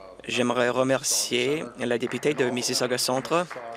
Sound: applause

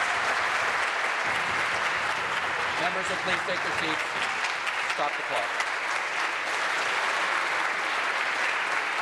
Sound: applause

